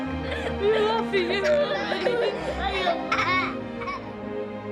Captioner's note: laughing